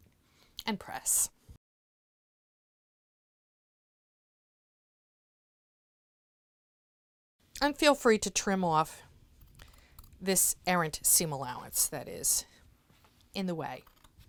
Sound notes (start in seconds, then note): 1.5 no Sound Present